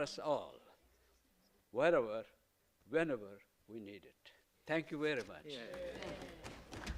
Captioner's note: applause